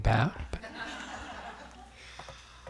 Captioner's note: laughter